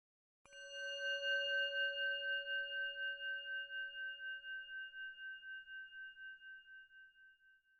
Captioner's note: bell Sound